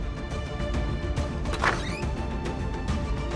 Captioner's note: door opens